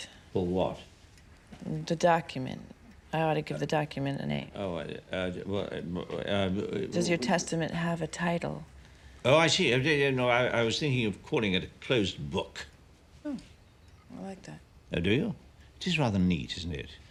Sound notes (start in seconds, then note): 4.6 stammering